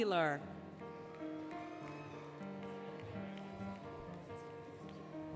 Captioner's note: applause, Cheering, Music